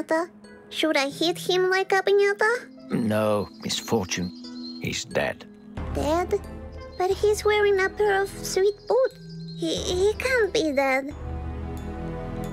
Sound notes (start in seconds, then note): none